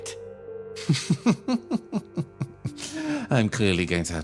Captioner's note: Gartrinus Laugh